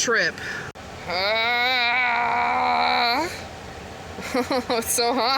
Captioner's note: heat distress sounds